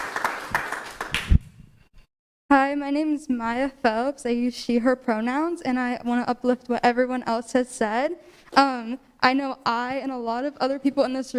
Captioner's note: applause